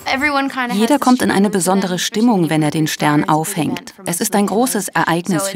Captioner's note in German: englisch